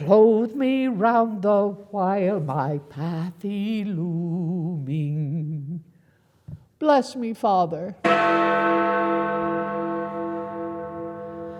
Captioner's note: bell rings